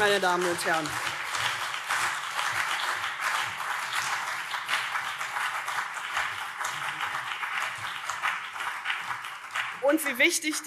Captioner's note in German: Beifall CDU und vereinzelt SPD